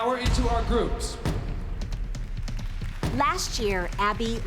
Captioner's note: applause